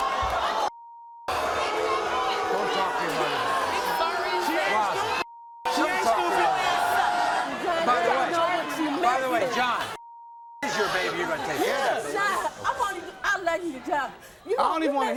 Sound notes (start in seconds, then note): 1.2 booing; 5.6 audience booing drowns out sounds